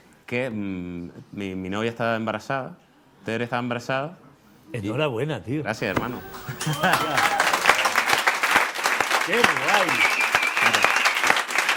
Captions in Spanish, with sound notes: que es que mi novia está embarazada, Tere está embarazada... Enhorabuena, tío. Gracias, hermano. (Aplausos) ¡Qué guay!